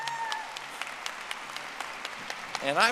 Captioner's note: audience applauding